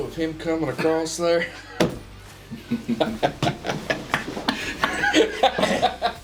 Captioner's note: laughing